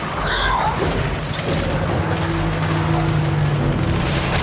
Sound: growling

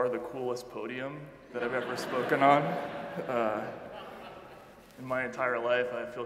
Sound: audience laughing

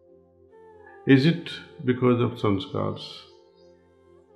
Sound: impressions

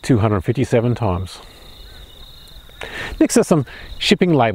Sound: birds chirping

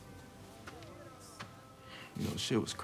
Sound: chatter

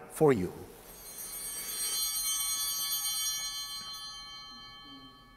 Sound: bell ringing

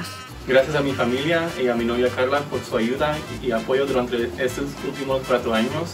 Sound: speaks in foreign language

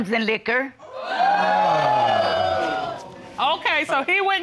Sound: audience exclaiming

